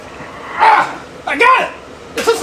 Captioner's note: grunting